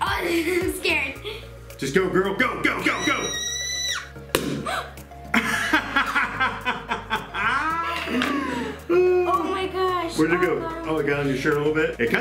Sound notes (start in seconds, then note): 2.8 squealing; 4.2 balloon pops; 4.6 gasps; 5.3 laughing